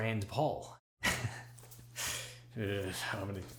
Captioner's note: chuckles nervously